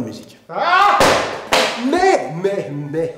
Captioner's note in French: bruit de chute